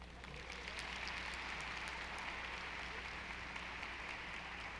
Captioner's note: audience applauding